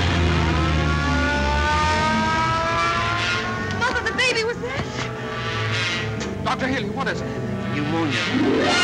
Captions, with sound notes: (ambulance siren) - Mother, the baby, was that? - Dr. Healy, what is it? - Pneumonia.